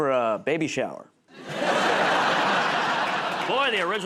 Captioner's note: laughter